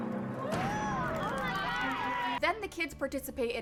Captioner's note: more Kids Cheer